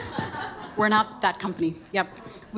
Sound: audience laughing

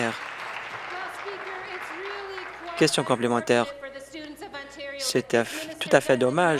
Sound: applause

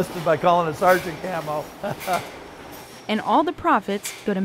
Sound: chuckles

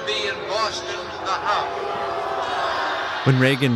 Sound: crowd jeers

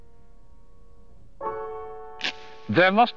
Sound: match been struck

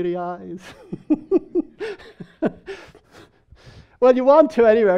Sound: people laughing

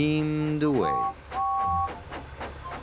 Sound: toot-Toot!

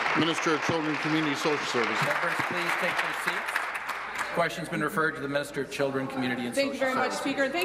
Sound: applause

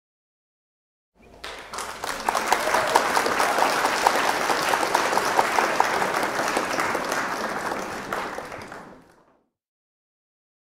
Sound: sound of clapping

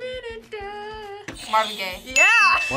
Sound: buzzer rings

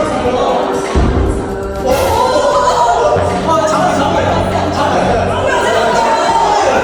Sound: desperately shouting

